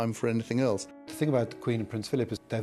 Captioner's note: voiceover